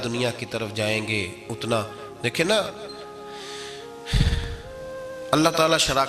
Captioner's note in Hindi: अचानक ज़ोर से सांस लेने की आवाज़